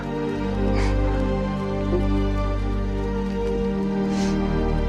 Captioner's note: Michelangelo weeping